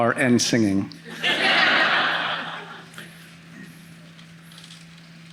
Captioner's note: audience laughing